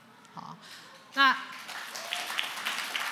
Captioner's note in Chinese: 掌聲